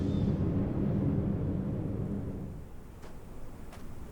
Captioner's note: wind howling; footsteps padding